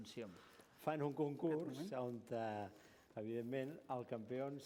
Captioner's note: non-english speech